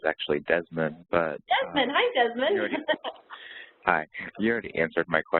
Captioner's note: laughs